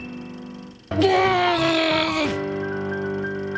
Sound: grumbles

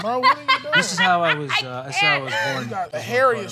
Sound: laughing

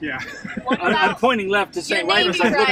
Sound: laughs

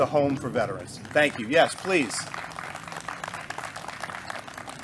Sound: applause

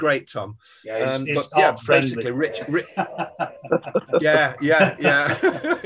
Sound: laughing and murmuring

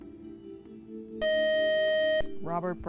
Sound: buzzer

